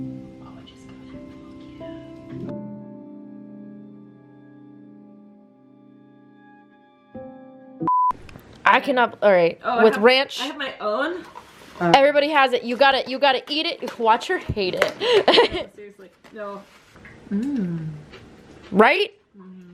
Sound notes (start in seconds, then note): 3.8 piano music softens; 7.8 harsh beep; 15.0 laughs